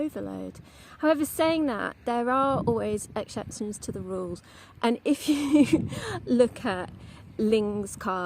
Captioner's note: laughs